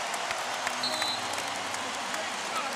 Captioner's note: whistle blows